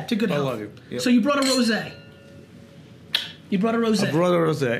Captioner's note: lips smack